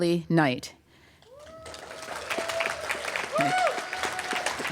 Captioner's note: applause